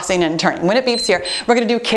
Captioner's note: timer beeps